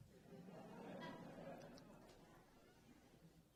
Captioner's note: laughing